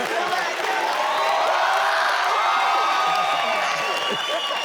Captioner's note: audience cheers